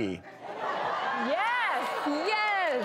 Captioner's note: audience laughing